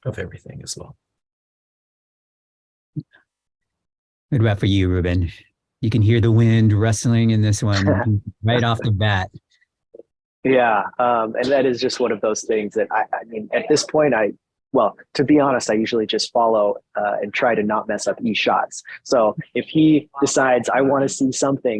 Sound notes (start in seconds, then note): 7.8 laughter